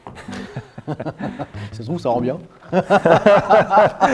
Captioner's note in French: rires